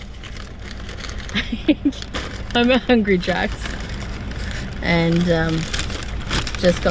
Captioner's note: sound of paper packet rustling; giggles; paper packet continues to rustle